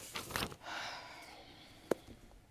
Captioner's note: judge lake sighs